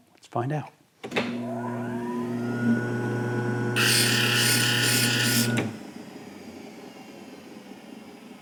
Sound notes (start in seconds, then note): 1.5 machine grinding